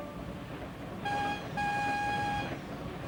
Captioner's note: whistle blowing